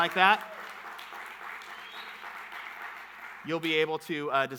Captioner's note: audience clapping